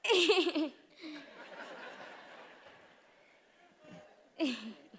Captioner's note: attendees chuckling